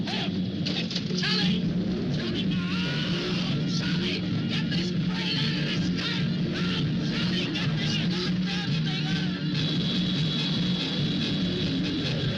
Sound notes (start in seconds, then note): 0.9 speaker muffled in panic; 7.1 panicked shouting; 10.3 dramatic music; 12.1 werewolf growing